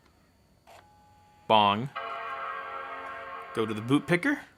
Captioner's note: computing dinging